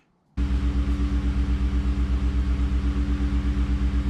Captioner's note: engine revving